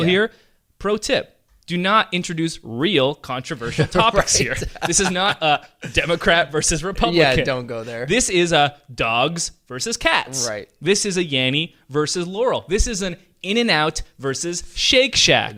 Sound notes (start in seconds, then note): 3.6 laughing